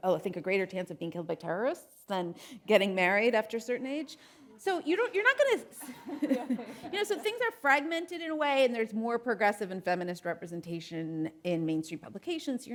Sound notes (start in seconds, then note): 5.8 chuckles; 5.9 audience laughing